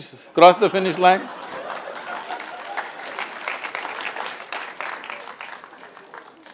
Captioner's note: laughter/Applause